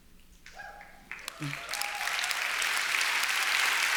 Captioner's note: applause